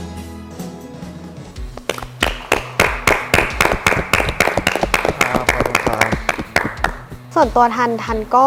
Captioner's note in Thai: เสียงปรบมือ